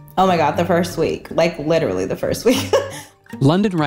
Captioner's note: laughs